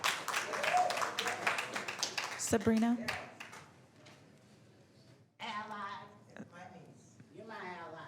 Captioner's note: applause